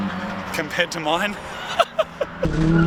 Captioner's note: laughing